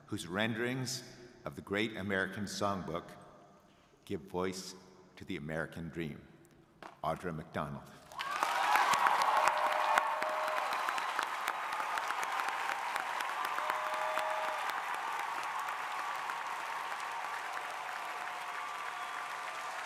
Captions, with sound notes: whose renderings of the great American songbook give voice to the American dream, Audra McDonald. (crowd cheering)